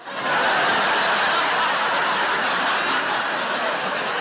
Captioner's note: audience laughs